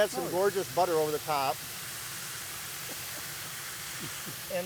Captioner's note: laughing